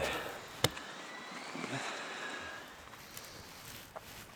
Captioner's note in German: Fernes Maschinensurren